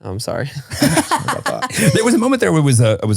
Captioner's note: laughing